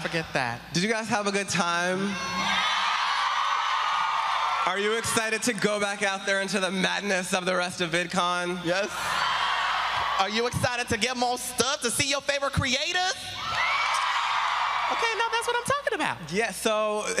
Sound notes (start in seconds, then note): 6.6 applause